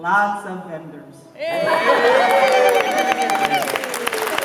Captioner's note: applause